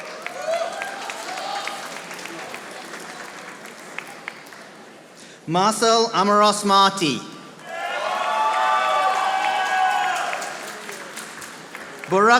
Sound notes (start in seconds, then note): 0.0 audience applauding; 7.6 audience applauding